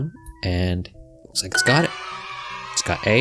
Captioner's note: applause